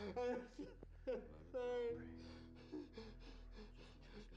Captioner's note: sobbing